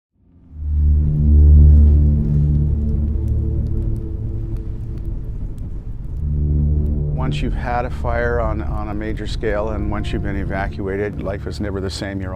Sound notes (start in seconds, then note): 1.2 fire crackling; 1.2 foreboding music